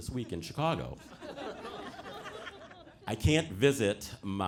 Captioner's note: audience laughing